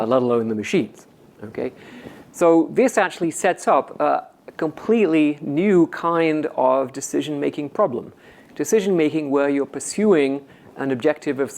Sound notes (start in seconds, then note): none